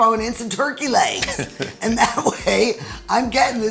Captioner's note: both laughing